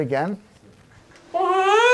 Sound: baby cries

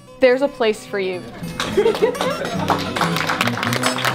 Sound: applause

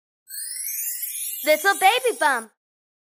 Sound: twinkling

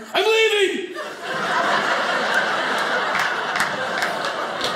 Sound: audience laughing

